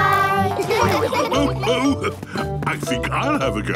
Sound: laughs

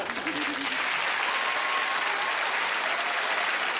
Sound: applause

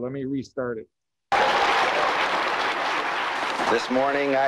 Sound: audience applause

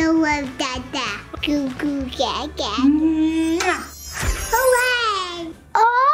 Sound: blowing kiss

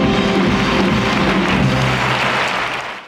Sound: audience applauding

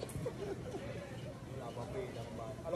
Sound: laughing

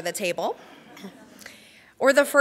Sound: crowd laughs

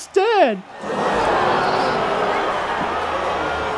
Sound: crowd gasps

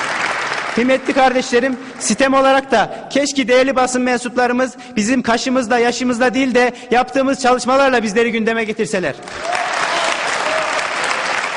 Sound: cheers

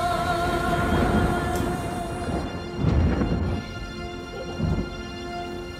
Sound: thunder

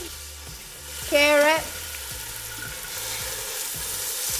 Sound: pan sizzling

